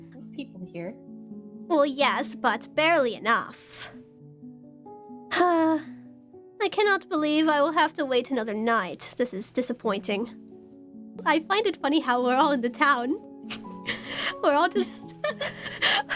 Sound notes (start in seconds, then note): 5.2 sigh; 15.2 DAMIEN and ROSE laugh